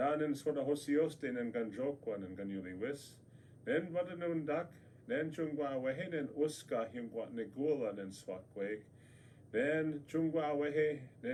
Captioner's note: speaks native language